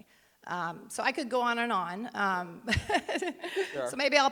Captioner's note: chuckling